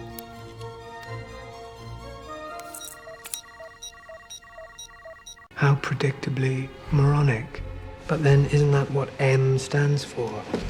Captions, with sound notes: [Click] [Click] [Beeping] How predictably moronic. ... but then isn't that what "M" stands for?